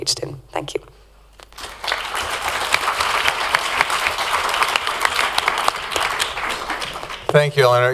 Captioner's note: applause